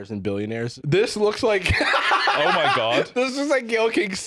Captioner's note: laughs